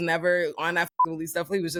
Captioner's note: beep